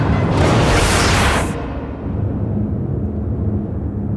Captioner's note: suspenseful music; whooshing